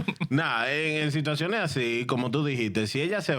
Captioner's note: speaking In Spanish